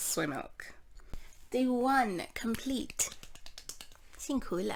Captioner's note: clap clap clap